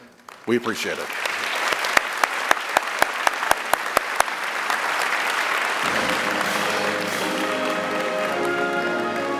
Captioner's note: applause